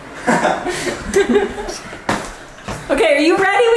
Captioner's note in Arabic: يضحك الجميع